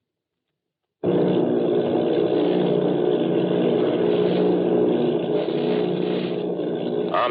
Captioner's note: airplane motor